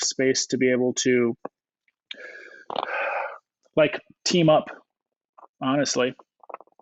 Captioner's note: sighs